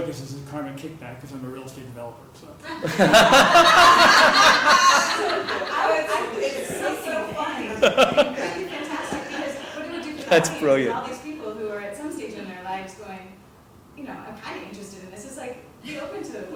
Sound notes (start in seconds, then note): 5.9 laugh